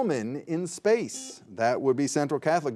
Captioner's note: buzzer buzzing